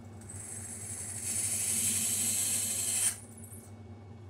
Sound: drill whirring

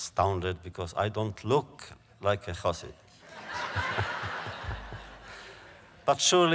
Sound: laughs

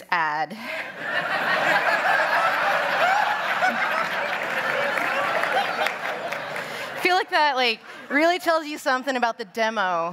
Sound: laughter

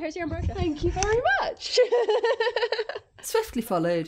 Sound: laughing

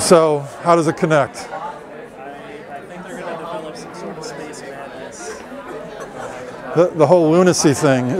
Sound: chatter

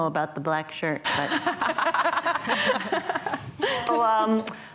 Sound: laughing

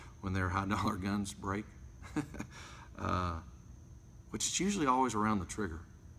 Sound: laughs

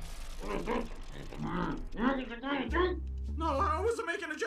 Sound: muffled Decepticon vows of death and bloodshed

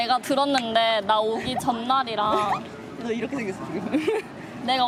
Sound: laughs

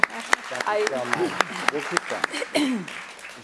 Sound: applause

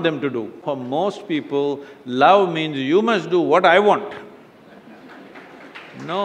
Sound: few laugh/Applause

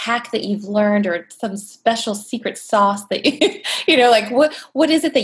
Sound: laughs

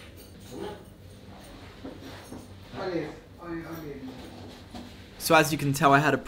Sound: men speaking in foreign language

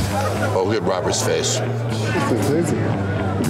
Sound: laughs

